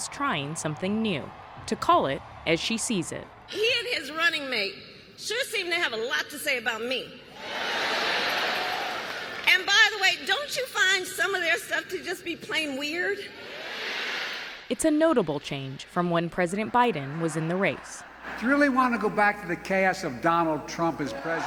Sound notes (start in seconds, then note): 7.3 cheering; 8.0 applause